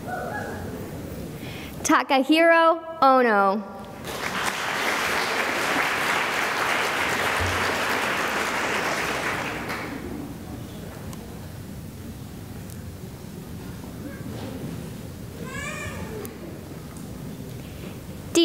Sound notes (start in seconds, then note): 3.9 applause